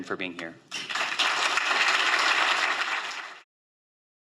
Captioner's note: applause